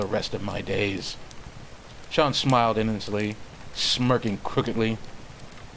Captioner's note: none